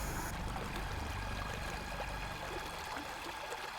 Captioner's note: water babbling